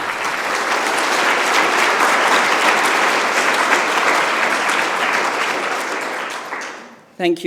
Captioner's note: applause